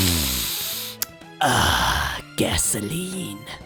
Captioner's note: lip smack